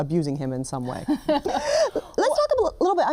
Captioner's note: both laugh